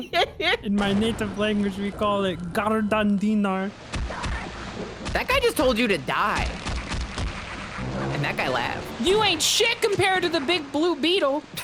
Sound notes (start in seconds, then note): 0.0 laughs; 3.7 alien shouting; 7.8 alien snickering